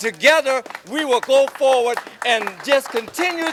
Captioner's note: audience applauding